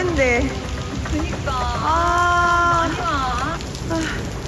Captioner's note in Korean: 슬픈 비요정들의 탄식